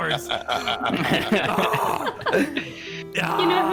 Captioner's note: laughing; chuckling; excited noise